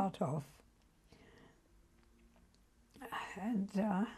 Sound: pauses for 3 seconds

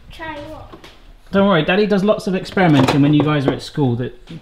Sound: none

